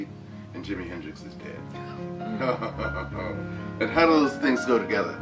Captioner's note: laughing